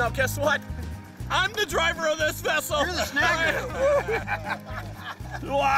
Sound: laughing

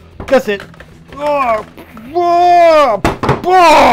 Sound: grunting

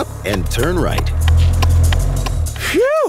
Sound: clicking

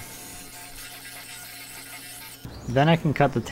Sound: saw buzzing

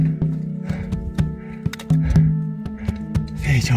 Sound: heavy breathing

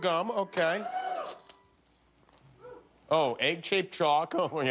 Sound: cheers and applause

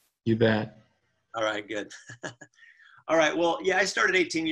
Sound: laughs

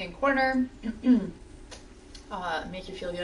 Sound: clears throat

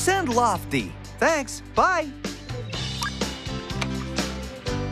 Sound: phone Beeps

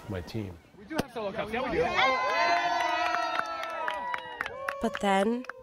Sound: people cheering

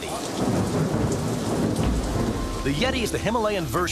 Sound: thunderstorm

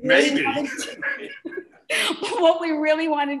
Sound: laughter

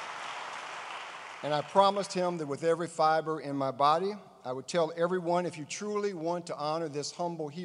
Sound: applause

